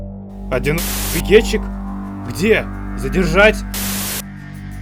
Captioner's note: static